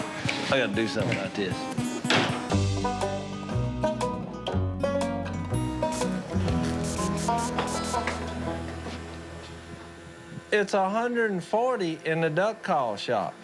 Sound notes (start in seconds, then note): 2.6 light music playing; 5.8 spray hissing